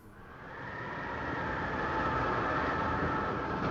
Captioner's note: wind blowing